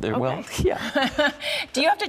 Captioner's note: both laugh